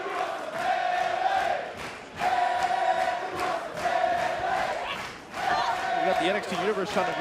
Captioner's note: fans chanting